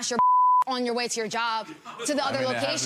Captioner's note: beep